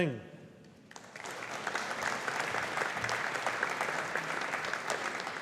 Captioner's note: audience applauding